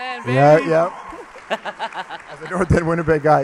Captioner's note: laughs